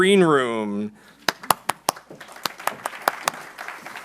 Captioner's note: applause